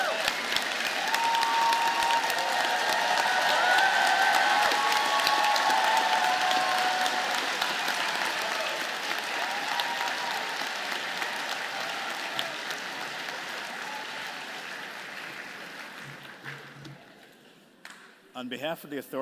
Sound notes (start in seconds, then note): 0.3 applause; 4.4 cheers and applause